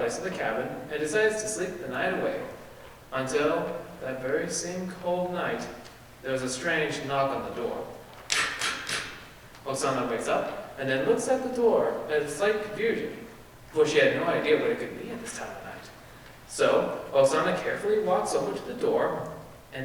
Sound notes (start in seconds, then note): 8.3 knocking